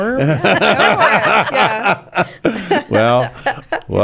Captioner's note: laughing